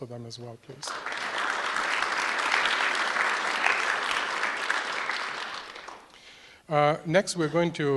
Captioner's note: applause